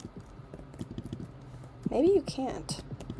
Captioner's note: clicking